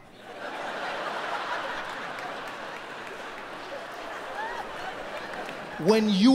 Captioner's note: audience laughing; audience clapping